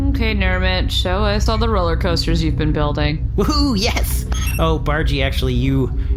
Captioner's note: typing on keypad